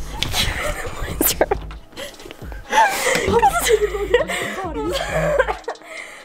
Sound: laughs; whispers; coughing

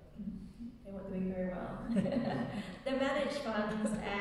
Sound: laughing

